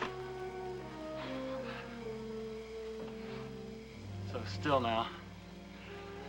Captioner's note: sighing